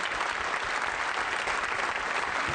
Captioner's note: applause